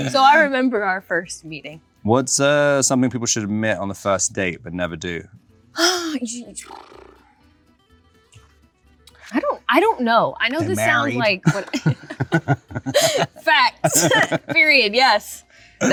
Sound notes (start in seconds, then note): 5.8 Zendaya sputters; 6.0 Zendaya sighs; 13.7 laughs